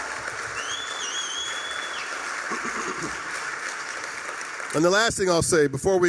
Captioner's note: applause, cheering, whistling